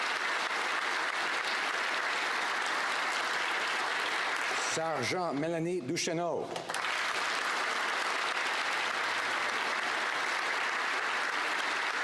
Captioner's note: applause